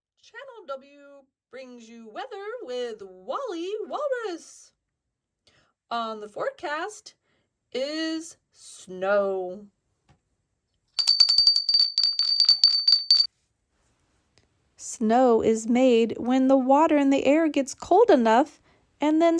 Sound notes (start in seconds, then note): 11.0 bell ringing